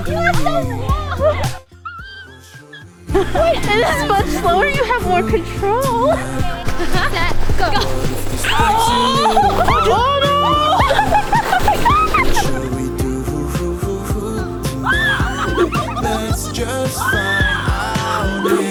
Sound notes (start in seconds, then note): 1.4 can't breathe laugh; 8.6 screaming; 13.0 more screaming and laughing